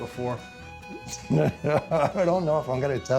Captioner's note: laughter